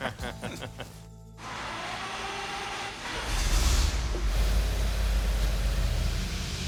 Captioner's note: all laughing; engine starting